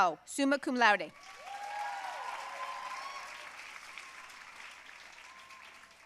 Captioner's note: audience cheering and applauding